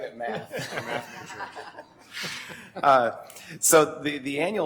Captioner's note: laughter